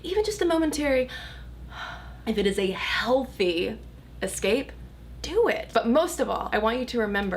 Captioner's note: relieved sigh